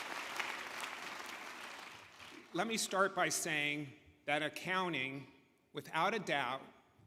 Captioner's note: applause